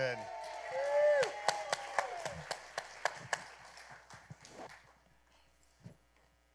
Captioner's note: applause